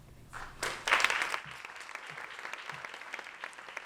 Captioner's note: applause